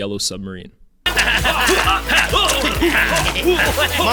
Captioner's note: grunting